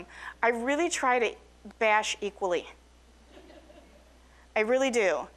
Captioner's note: audience laughing